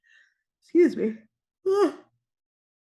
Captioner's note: yawns